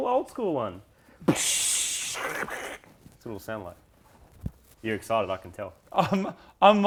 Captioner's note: blowoff valve noises